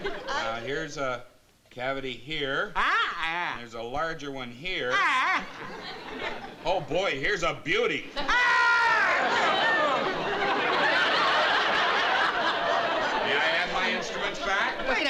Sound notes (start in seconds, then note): 8.2 screams